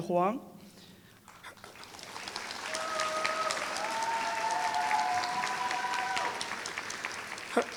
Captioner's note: applause